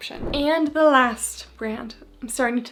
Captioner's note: screen whooshing